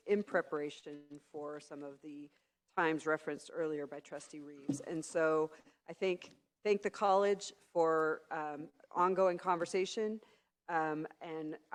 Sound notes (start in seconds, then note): none